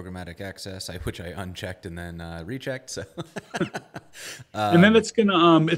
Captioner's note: laughs